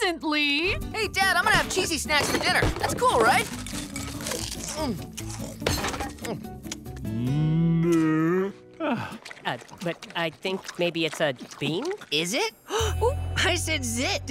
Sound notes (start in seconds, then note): 7.1 sighing; 12.1 gasping